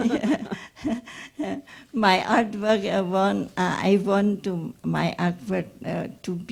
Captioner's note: laughs